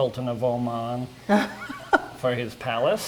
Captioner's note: giggling